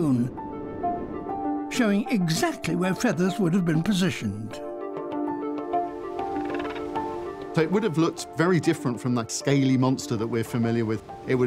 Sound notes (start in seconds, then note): 6.2 chirping